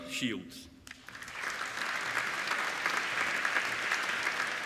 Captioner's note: applauding